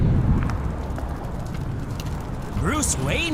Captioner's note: explosion